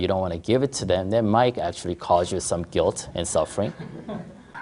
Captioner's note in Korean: 청중 웃음